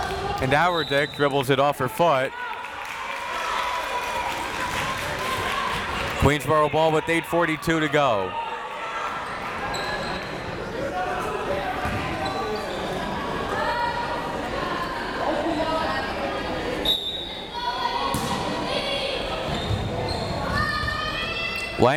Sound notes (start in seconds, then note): 2.3 crowd members clapping; 9.2 crowd members shouting; 16.8 whistle tweeting; 17.3 crowd members shouting